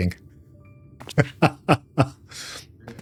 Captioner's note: laughs